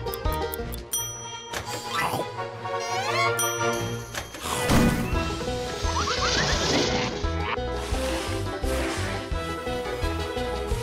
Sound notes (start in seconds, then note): 0.1 timer ticks, dings; 3.4 timer dings